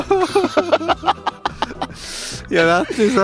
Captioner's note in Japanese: 笑い